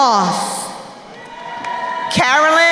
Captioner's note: crowd cheering